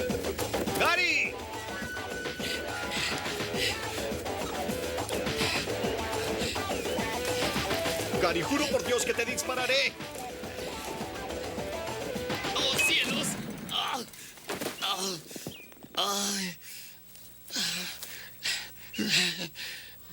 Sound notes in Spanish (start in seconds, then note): 13.0 grita; 13.3 estrondo de explosão; 17.4 suspira